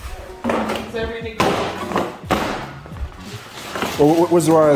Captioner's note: banging